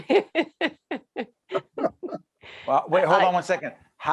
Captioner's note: laughing